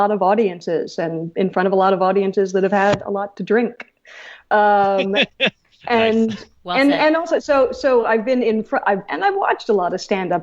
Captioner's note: hosts laugh